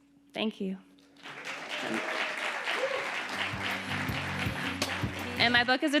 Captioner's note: audience applauding